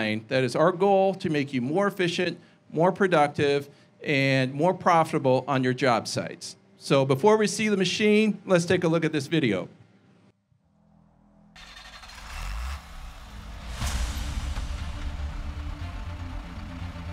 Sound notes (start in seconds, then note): 11.5 machine starts; 14.1 dramatic music